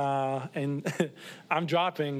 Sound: laughs

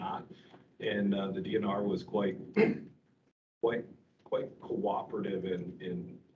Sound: clears throat

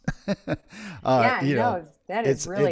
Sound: laughs

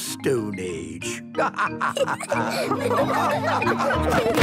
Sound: all laughing

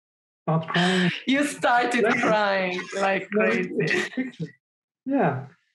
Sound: chuckles

